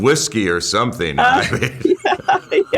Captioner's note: laughter